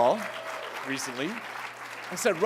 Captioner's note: applause